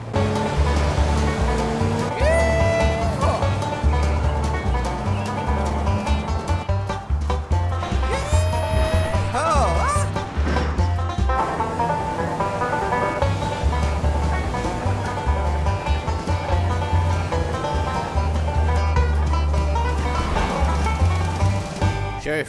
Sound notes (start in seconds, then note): 10.1 crash sound